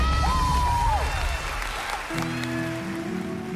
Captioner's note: cheering